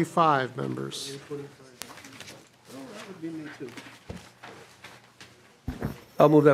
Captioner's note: gavel